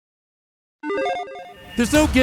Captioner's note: logo beeping